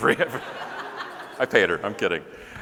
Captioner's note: audience laughing